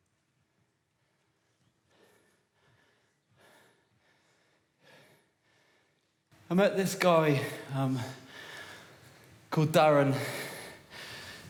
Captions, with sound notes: [breathing heavily] I met this guy erm…called Darren,